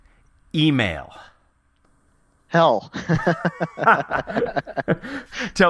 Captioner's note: laugh